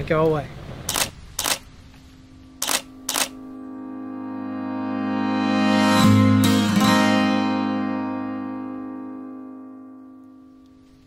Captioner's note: camera shutter clicks and music swells